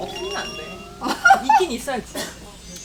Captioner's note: she is laughing